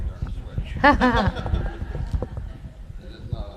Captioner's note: laughter